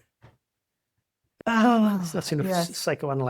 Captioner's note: laughs